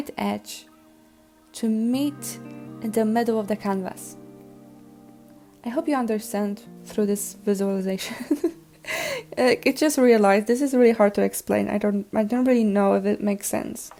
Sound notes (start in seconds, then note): 8.0 laughs